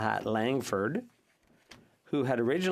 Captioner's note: speaking French